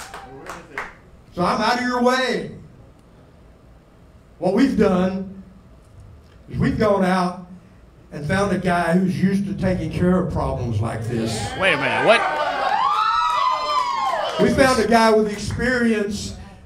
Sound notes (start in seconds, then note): 11.0 crowd cheering